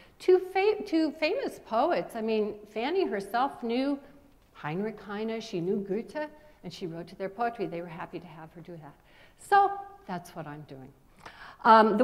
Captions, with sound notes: Two famous poets, I mean, Sandy herself knew [speaking foreign language] and she wrote to their poetry, they were happy to have her do that. So, that's what I'm doing.